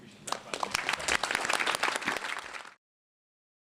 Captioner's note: applause